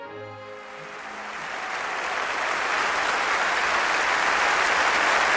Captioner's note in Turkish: Alkış